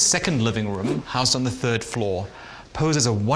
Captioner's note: floor plan whooshes